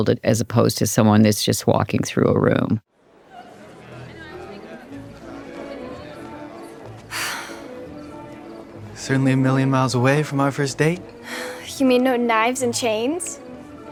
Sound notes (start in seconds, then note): 3.0 attendees chattering; 3.6 dramatic music